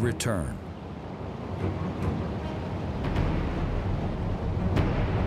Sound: water sloshing

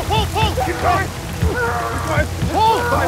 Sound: iain yells

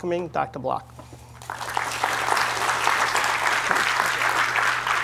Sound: applause

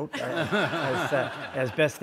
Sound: audience laughs

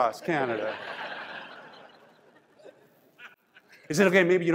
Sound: crowd laughs

